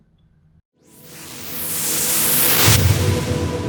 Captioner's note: whooshing